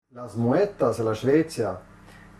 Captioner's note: speaks in Romansh